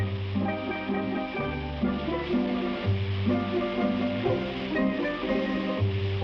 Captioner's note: fireworks hiss; solemn guitar music